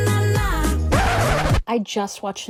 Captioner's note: record scratch